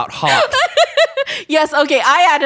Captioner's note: laughs